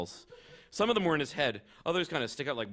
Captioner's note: laughter